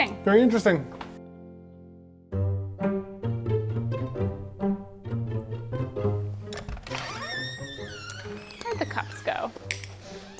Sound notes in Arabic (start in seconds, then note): 2.3 موسيقى مبهجة; 6.4 صرير الباب